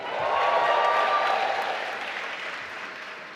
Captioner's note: applause